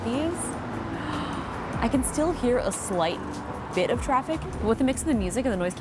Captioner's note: gasps